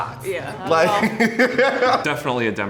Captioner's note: laughing